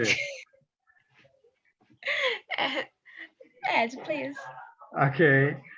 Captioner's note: chuckles